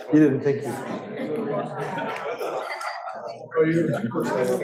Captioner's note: students chattering